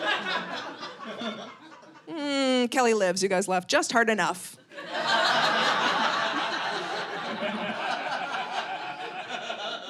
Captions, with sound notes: Kelly lives, you guys laughed just hard enough. (audience laughing)